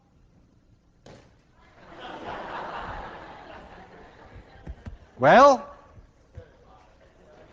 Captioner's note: class laughs